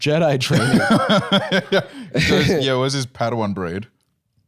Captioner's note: laughs